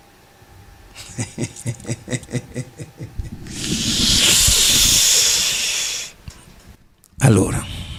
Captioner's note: laughs